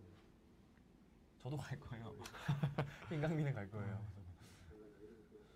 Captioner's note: laughs